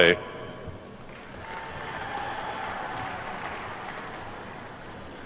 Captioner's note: attendees clapping